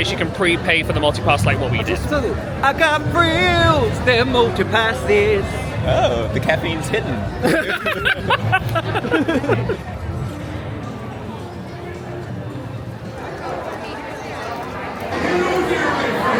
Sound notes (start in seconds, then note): 7.4 laughing; 11.4 crowd murmuring